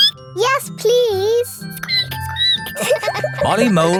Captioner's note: squeaks; squeaking; all laughing